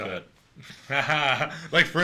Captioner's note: laugher